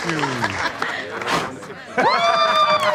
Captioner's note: blows air; all cheering, clapping